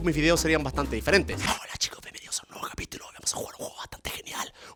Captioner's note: whispering